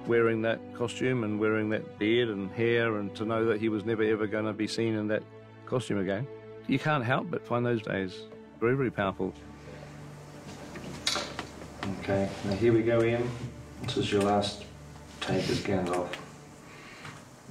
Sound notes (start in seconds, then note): none